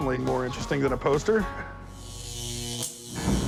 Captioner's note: electricity zapping